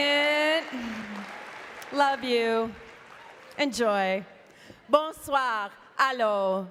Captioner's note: cheering and Applause